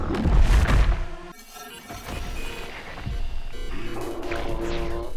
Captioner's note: electronic beeping